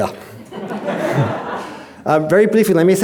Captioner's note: audience chuckling